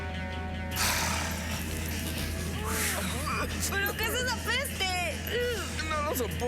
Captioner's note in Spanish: tosidos de la gente; tosidos de la gente